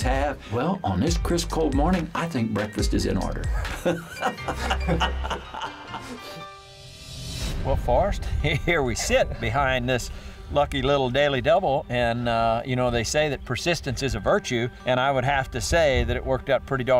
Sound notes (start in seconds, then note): 3.4 laughs